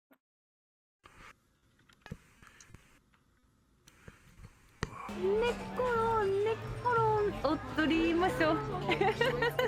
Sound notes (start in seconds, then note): 5.1 speaking Japanese; 8.4 laughing